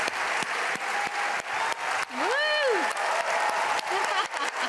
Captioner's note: cheering